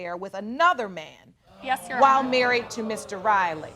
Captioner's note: audience exclaiming